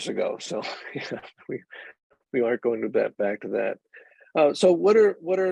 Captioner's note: chuckling